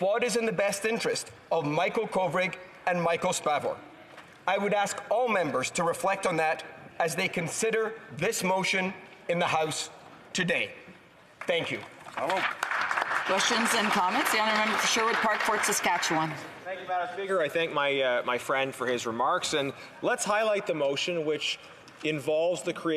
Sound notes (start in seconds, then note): 15.8 some Applause